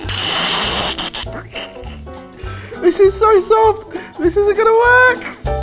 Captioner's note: laughing